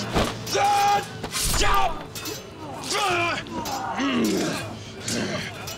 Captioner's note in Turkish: Dövüş sesleri